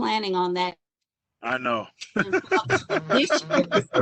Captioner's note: laughs